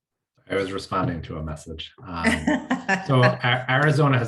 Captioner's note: laughs